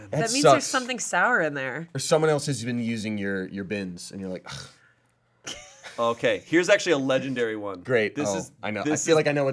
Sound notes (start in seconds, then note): 5.3 scoffs